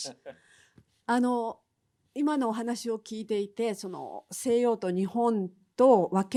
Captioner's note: speaking in foreign language